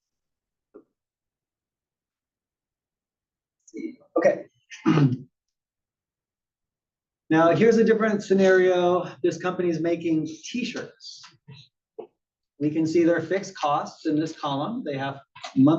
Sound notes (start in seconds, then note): 4.7 cough